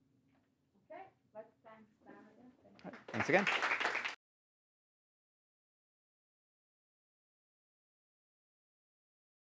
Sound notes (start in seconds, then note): 2.9 applause